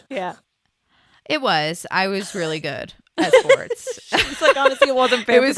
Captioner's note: laughs